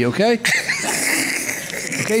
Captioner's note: laughing